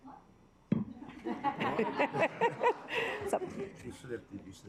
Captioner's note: assembly laughing